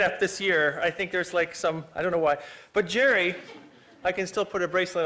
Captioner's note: laughter